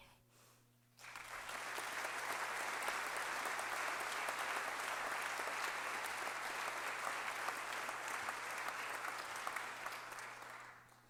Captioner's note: applause